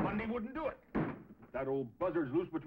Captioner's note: hand thudding